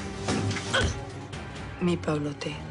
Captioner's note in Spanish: Quejidos